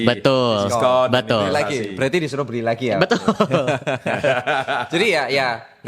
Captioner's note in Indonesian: tertawa